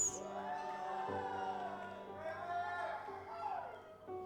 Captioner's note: audience applauds